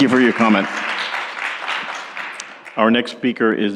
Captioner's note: applause